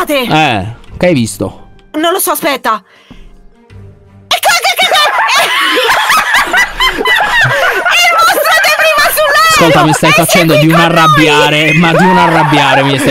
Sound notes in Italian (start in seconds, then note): 4.8 ridono